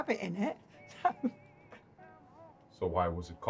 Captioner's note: laughs